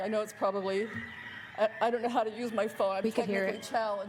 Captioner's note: roosters crowing